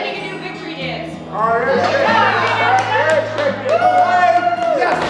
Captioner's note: chatter